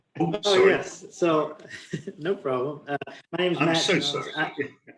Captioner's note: laugh